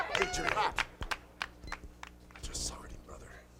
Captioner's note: crowd cheering